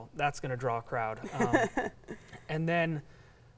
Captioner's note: laughing